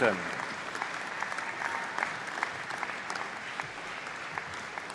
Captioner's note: applause